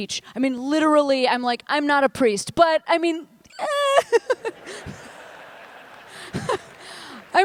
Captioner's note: laughs